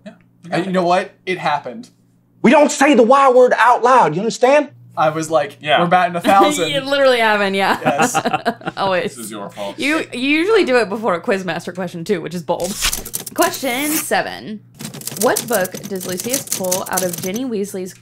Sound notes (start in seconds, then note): 7.7 laughter